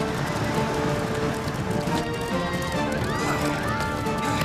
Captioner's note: people screaming